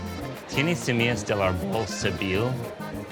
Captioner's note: speaking Spanish